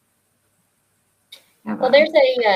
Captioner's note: speaking faintly